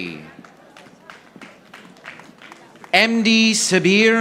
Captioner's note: audience applauding